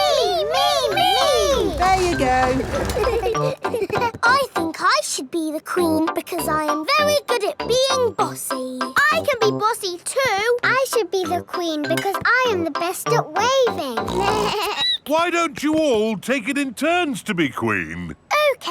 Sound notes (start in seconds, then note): 14.0 snorts; 14.1 bleats